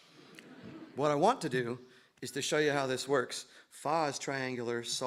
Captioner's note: laughter